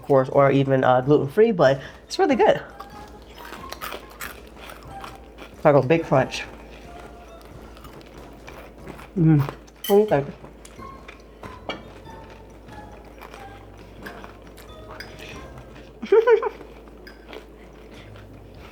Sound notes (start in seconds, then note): 15.9 laugh